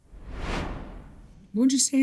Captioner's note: screen swishes